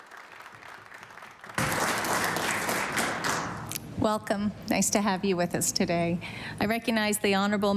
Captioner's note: applause